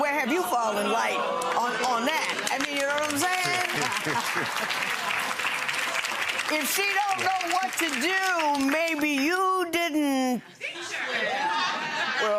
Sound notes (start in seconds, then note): 4.3 audience applauding